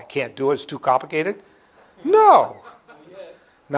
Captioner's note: laughter